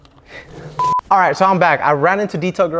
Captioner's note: beeps